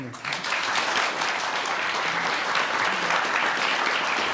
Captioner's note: audience clapping